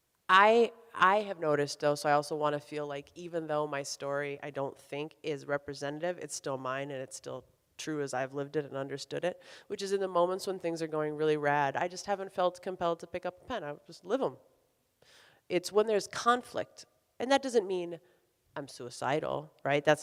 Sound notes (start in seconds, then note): none